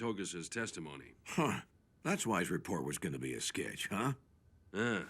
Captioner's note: scoffs